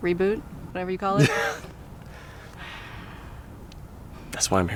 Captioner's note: Bob laughs